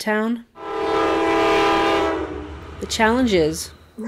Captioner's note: train horn